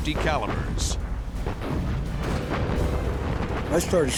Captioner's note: explosions